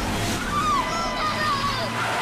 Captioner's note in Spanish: Chirrido de llantas